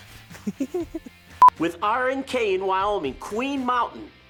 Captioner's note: beep